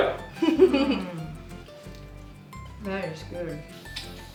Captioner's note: laughs